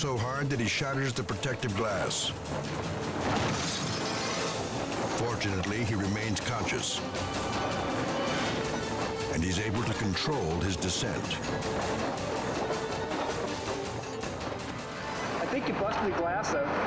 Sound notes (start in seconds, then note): 3.3 glass shatters